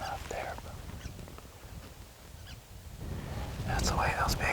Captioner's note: wind whooshing